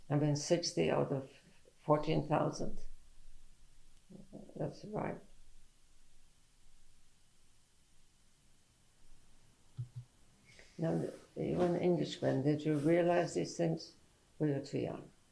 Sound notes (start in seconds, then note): 5.2 pauses for 6 seconds